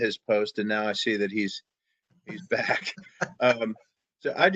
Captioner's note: laughs